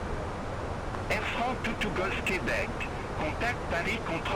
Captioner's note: radio chatter